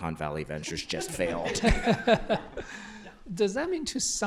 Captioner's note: laughter